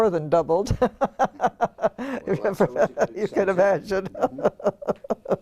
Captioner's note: laugh